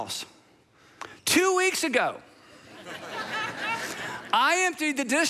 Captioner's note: congregation laughing